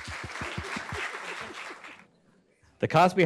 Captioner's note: audience claps